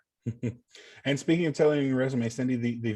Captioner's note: chuckling